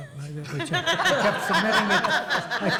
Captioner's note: audience laughs